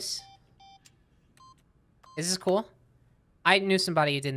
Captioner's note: keypad beeping